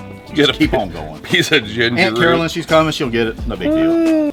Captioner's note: laughing